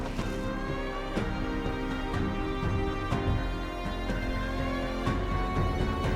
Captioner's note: suspenseful music continues; doors thumping